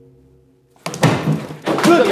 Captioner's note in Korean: '쿵' 소리